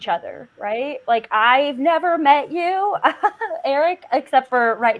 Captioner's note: laughs